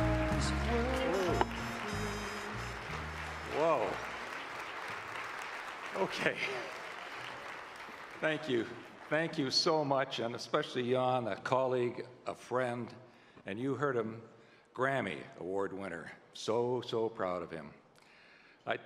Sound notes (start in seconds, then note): 4.9 applause